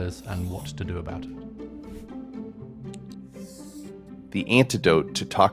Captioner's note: light music; graphics clicking